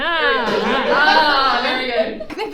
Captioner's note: audience oohs